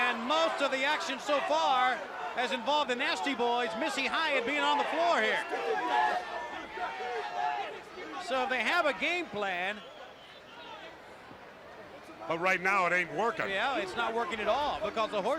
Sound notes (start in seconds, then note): 3.9 crowd chatter; 5.8 crowd cheering